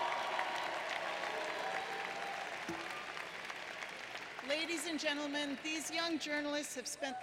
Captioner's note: applause